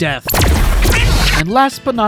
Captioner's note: cartoon duck violence